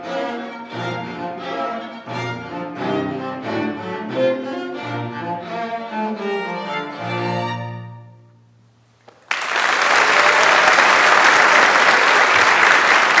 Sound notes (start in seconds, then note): 9.1 audience applauds